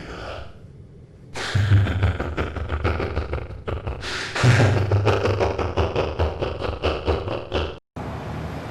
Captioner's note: evil laugh